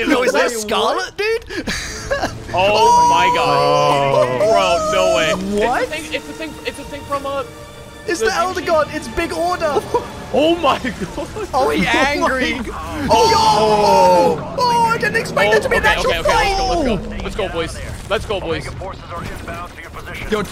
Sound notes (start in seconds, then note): 1.3 laughs; 6.2 stutters